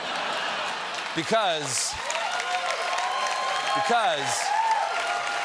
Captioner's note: laughter; applause; cheers and applause